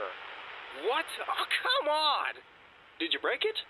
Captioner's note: Static